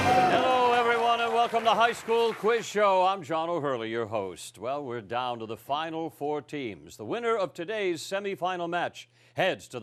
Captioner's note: cheering and applause